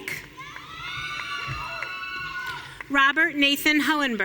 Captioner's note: audience cheering